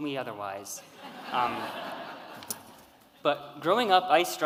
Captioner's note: audience laughing